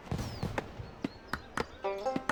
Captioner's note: woodcutting continues; jaunty music